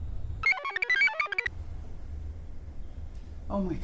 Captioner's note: computer chirps